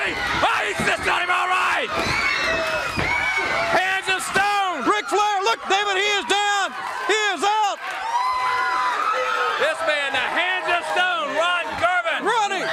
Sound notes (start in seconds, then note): 6.1 crowd cheering